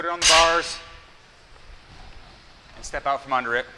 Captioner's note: bar clanking